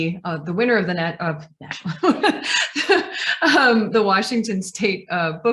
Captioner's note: laughs